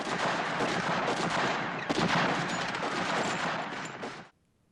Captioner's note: gunshots and screaming